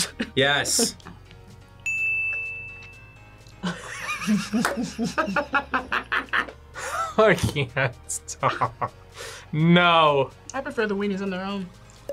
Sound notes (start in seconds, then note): 1.6 laughs; 1.8 ding; 3.6 laughs